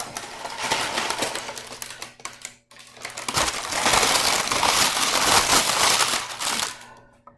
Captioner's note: parchment paper crumples